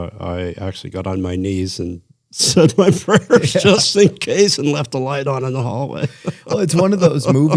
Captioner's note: laughter